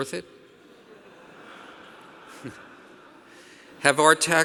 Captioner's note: audience laughing